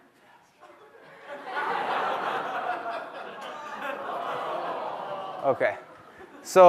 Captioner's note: laughter